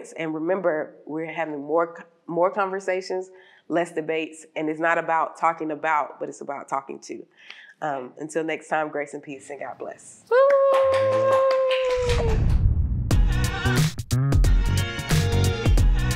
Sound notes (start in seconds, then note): 10.4 clapping; 13.1 upbeat music